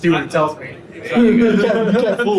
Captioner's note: people laugh